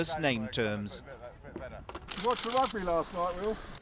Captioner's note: voiceover